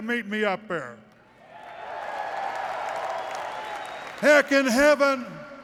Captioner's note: applause